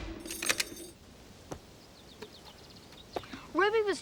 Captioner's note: key clicking